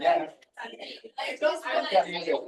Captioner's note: people chattering distantly